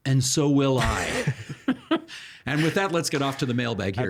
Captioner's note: chuckling